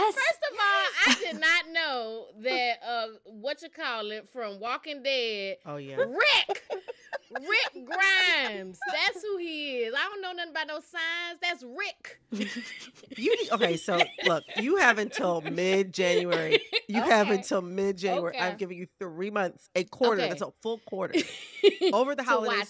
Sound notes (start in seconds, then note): 12.3 laughter